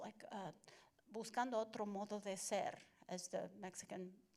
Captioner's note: Spanish language